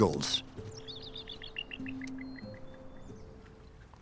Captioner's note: eagle screeches